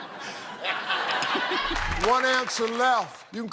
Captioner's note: laughter